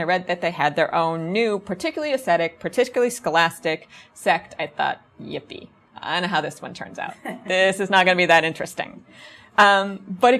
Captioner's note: audience chuckles